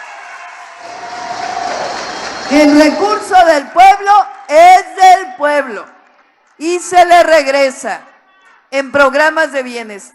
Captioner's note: applause